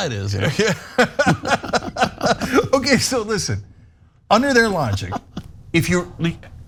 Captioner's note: laugh